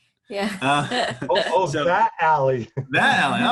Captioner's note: laughs